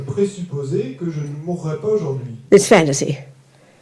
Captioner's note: French